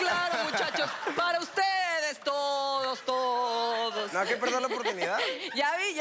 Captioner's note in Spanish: Risas